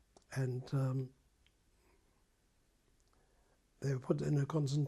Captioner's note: pauses for 3 seconds